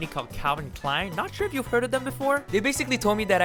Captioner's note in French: Sarcasme